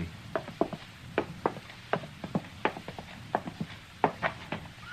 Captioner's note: footsteps